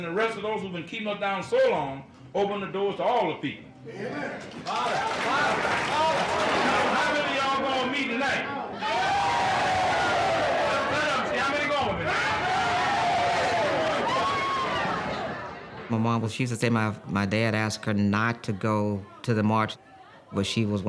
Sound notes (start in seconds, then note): 4.4 cheers and applause; 8.5 crowd cheering; 12.6 crowd cheering